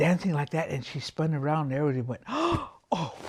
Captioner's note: gasping